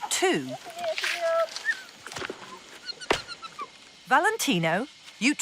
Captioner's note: orangutans squeaking